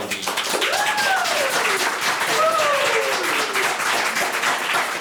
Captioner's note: members clapping